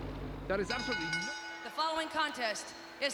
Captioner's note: bell rings